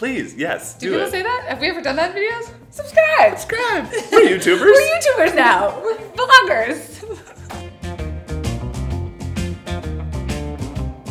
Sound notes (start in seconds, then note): 6.4 laughing; 8.4 upbeat music